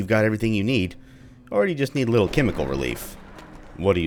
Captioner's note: thunder